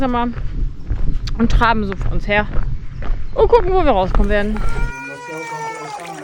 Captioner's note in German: weinen